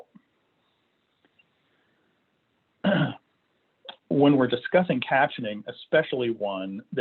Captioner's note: clearing throat